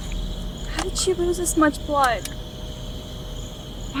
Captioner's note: flashlight clicking